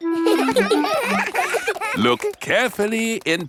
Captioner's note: children laughing; laughs